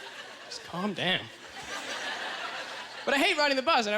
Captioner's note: audience laughter; audience chuckles